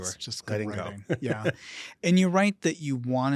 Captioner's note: chuckling